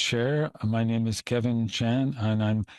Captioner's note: speaking French